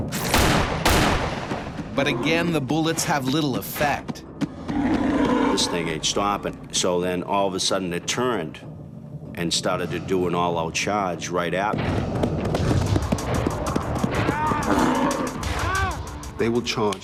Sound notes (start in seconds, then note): 0.1 gunshots; 2.5 voiceover; 14.6 yelling